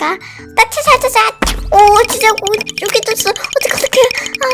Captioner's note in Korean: 탁!